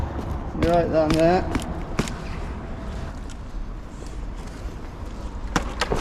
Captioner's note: foot tapping